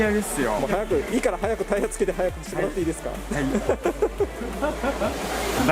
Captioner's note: laughs